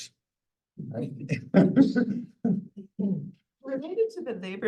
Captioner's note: laughter